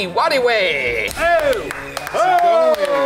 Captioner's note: everyone cheers and applauds